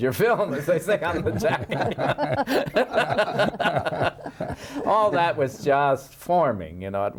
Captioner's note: laughing